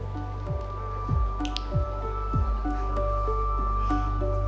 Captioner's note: fingers click